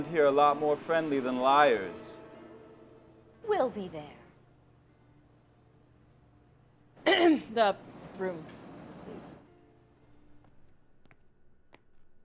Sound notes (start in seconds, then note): 7.0 clearing throat